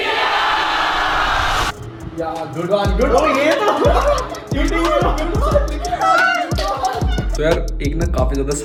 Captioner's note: hearty laughter